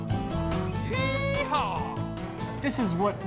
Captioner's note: voiceover